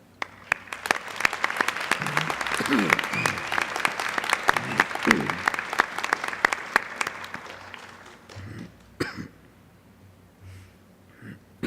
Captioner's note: applause